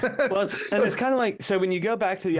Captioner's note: laughing